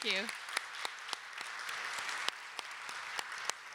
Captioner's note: applause